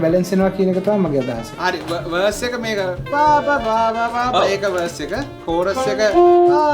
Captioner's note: humming